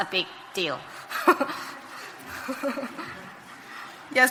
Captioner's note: laughing